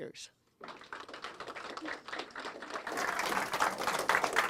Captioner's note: group applauds